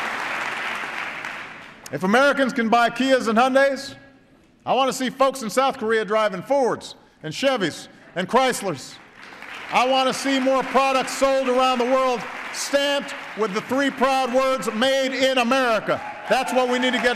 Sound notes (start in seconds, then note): 0.0 applause; 8.9 applause